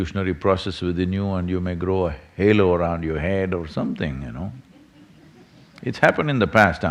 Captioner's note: few laugh